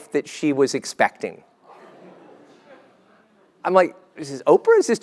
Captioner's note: laugh